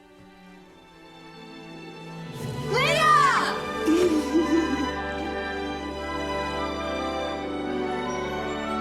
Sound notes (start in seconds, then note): 3.8 chuckles